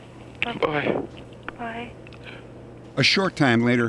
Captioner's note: on phone; on phone